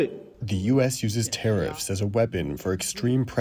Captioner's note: through translator